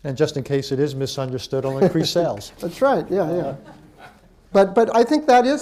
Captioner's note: laughter